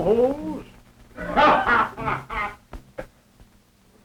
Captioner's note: laughter